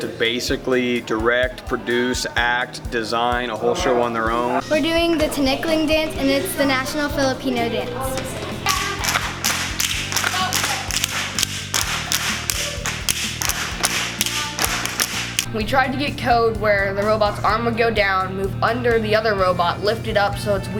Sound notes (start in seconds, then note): 8.6 sticks clacking